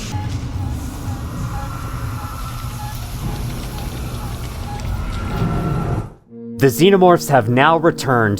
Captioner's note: Loud noises of many Xenomorphs